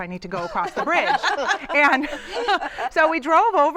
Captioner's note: laughter